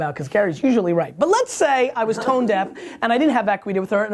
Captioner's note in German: Lacht